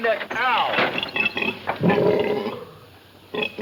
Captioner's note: pig snorts